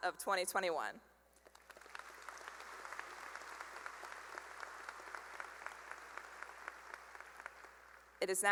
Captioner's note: applause